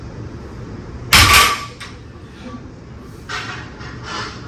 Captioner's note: weight clanks